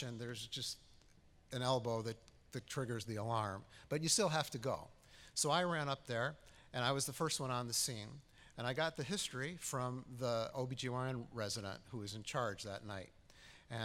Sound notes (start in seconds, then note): none